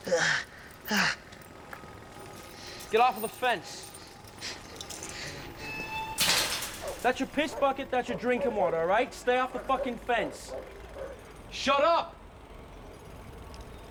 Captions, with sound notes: [ GROANING ] GET OFF OF THE FENCE. [ GATE CREAKS ] THAT'S YOUR PISS BUCKET. THAT'S YOUR DRINKING WATER. STAY OFF THE FUCKING FENCE. SHUT UP.